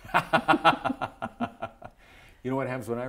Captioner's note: laughter